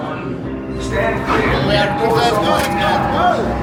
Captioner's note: door rumbling